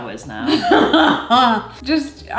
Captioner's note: laughs